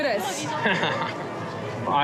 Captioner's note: laughs